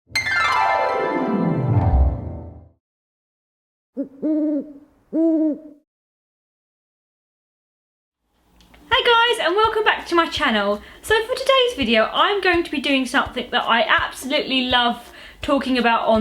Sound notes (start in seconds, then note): 0.2 intro music - descending piano slide; 4.0 owl hooting